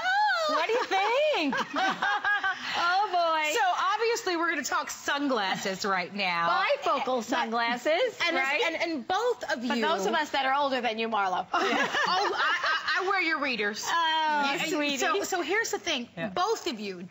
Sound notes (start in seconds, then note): 2.3 laughter